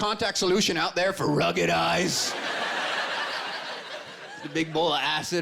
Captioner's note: laughter